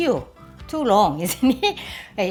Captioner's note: laughs